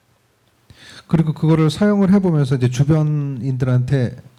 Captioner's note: speaking korean